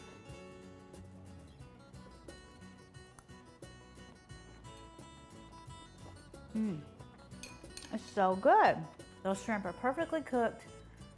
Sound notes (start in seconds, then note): 0.2 uplifting music; 6.5 moans